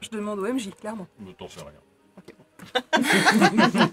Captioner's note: laughs